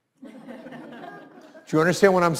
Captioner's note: laughs